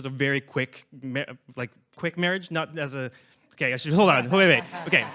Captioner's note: laughs